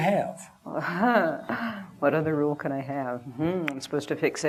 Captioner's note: laughs